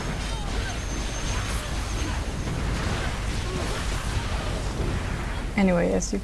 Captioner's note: fighting noises again